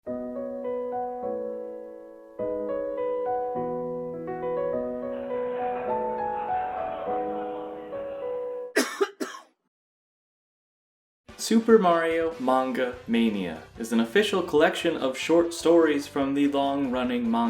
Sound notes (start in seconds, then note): 5.0 crowd murmuring; 8.7 music stops, guy coughs